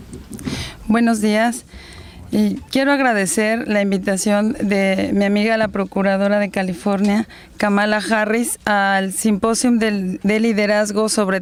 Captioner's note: speaking in Spanish